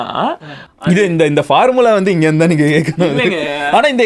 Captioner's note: laughs